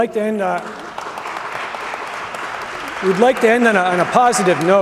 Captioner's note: applause